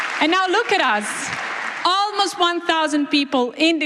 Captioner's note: applause